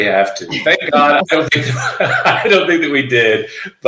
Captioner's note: laughing